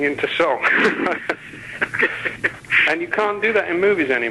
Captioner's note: both laughing